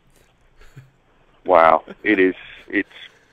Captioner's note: laughs